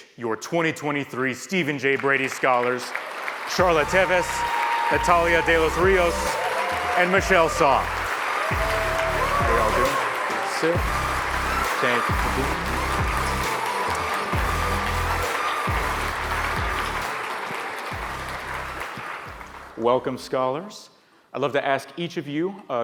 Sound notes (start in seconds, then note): 8.9 audience applauds; 8.9 upbeat music; 11.1 audience applauds; 11.1 upbeat music